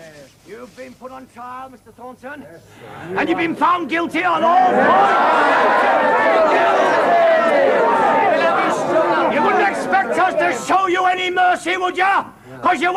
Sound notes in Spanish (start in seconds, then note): 4.6 Gritos